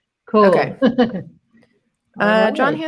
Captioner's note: laughs